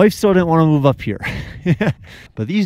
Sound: chuckling

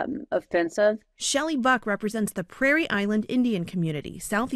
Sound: voice-over

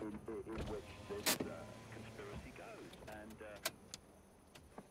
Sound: hand break clicks

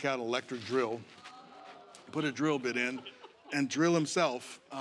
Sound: audience groans

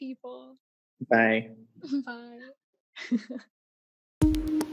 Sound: giggling; techno music playing

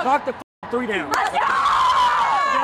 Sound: cheering

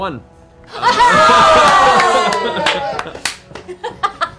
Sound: cheering

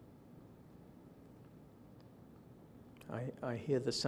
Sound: silence

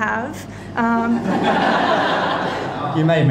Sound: crowd laughing

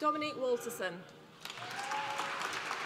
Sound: applause

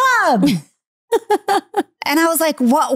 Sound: laughing

